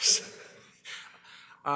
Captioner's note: exhales